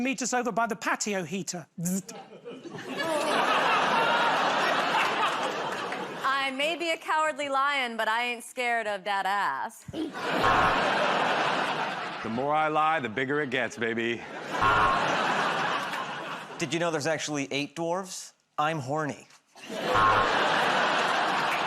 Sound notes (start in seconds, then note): 2.0 laughter; 10.4 buzzer buzzes; 14.6 buzzer buzzes; 19.8 buzzer buzzes